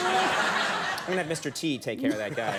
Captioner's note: audience laughter